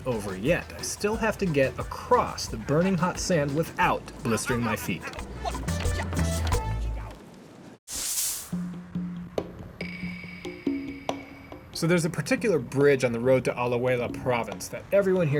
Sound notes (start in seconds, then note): 4.2 yelping; 8.6 suspenseful percussive music